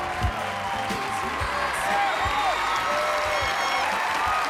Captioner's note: cheering